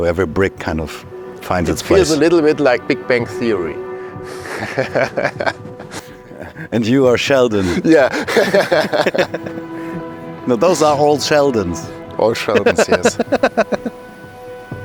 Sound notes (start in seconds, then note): 4.3 laughs